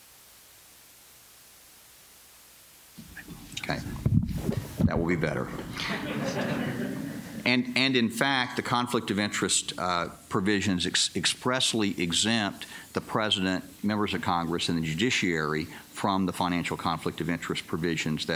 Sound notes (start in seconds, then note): 5.6 laughter